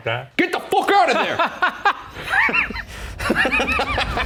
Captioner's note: both laughing